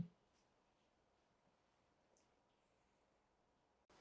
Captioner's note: pauses 6 seconds